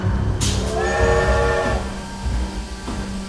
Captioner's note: train whistle